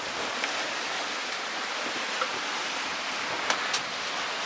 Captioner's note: sea Noise